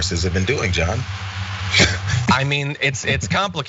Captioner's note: laugh